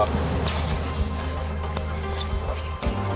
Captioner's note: poles clicking